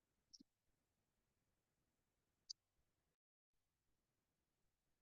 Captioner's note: audio drops